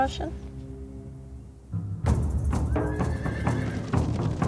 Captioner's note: horse neighing